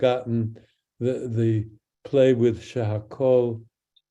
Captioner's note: speaks in Hebrew